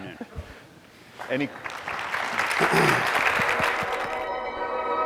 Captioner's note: audience clapping